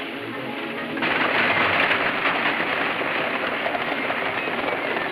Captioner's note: horses galloping